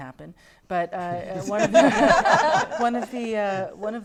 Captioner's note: laughter